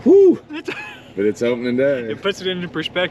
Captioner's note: laughs